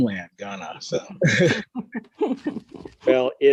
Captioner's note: all laughing